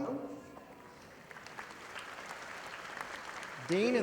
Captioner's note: audience applauding